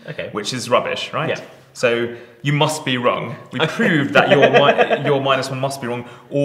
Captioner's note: laughing